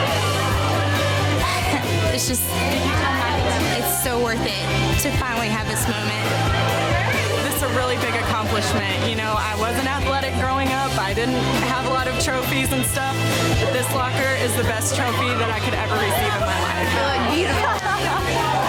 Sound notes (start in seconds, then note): 0.0 women cheering; 0.1 upbeat music; 6.3 upbeat music; 6.3 women cheering